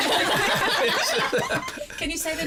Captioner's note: laughs; laughter